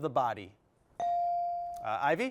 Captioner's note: bell chiming